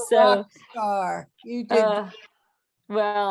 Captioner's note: microphone distortion